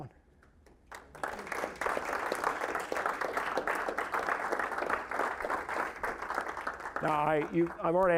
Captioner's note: applause